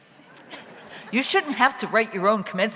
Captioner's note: audience laughs